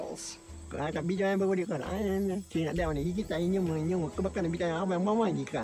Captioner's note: speaking in foreign language